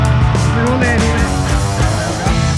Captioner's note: speaking in Norwegian